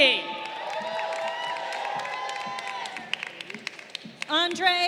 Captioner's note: crowd cheering